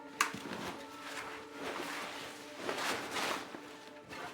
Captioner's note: bag rustling